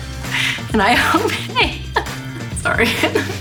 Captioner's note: laughs